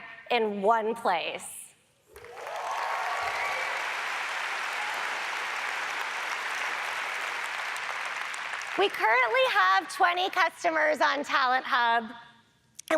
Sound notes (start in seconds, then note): 2.1 audience applauds